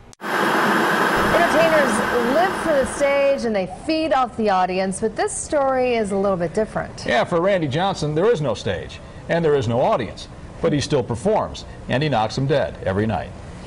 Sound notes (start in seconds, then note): 0.2 TV static